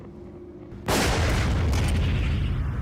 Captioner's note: gunshot